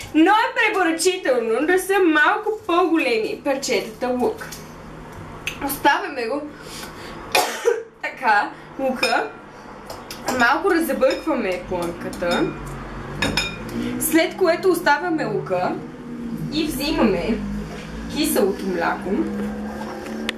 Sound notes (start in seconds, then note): 7.3 cough